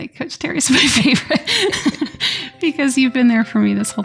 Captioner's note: laughter